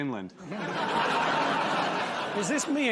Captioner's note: laughter